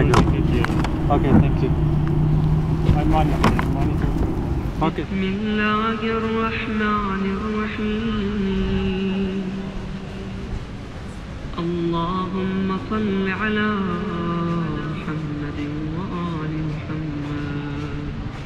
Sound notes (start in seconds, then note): 5.2 arabic Recitation